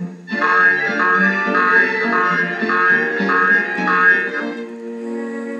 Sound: boing Boing Boing; intense Music

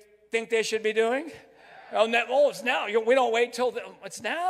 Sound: crowd

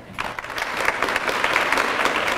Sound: applause

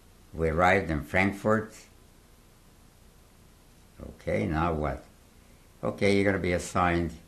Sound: pauses for 3 seconds

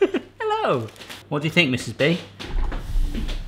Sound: laughs

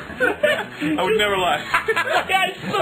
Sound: laughs

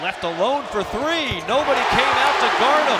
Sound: crowd cheering

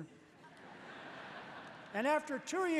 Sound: laughter

